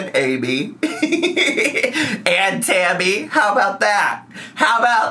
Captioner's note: laughs